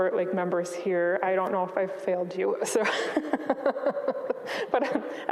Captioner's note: chuckles